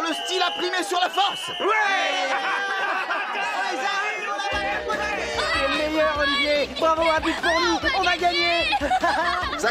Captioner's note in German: beifall